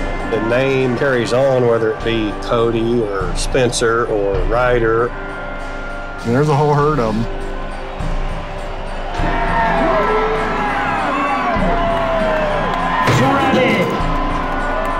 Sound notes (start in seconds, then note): 7.5 cheering